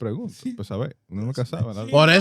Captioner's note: speaking In Foreign Language